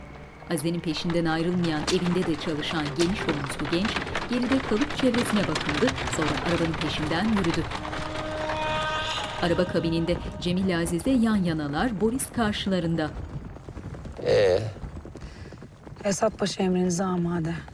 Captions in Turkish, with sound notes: (At arabası sesi) (Müzik - Gerilim) Ee? Esat Paşa emrinize amade.